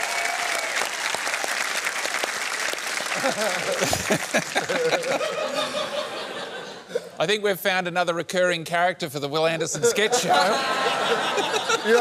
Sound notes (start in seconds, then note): 3.1 laughter